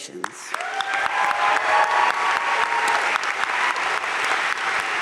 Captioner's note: audience cheering and applauding